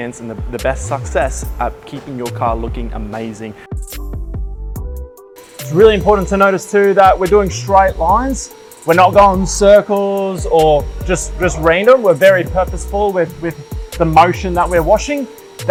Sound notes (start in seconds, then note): 5.4 machine whirring